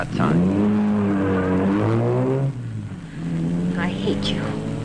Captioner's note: engine roaring